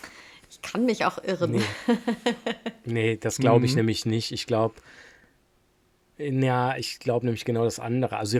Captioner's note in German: gelächter